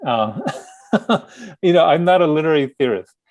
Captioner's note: laughing